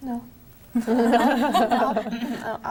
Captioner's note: laughing